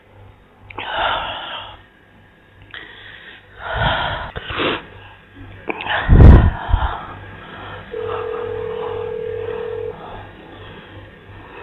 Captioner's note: heavy breathing, dialling tone